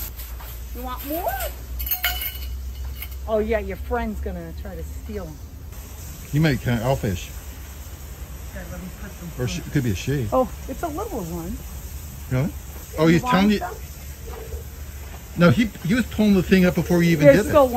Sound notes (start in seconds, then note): 0.8 cup and chain rattling